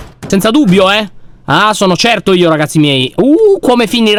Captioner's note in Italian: suoni metallici